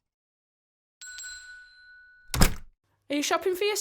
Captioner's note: shop doorbell tinkles